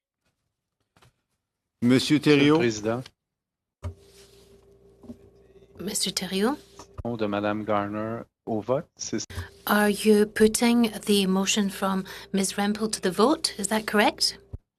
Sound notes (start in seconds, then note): 9.2 speaking in French